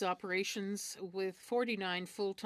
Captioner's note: speaking in French